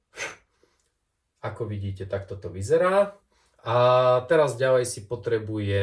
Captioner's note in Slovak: smrkanie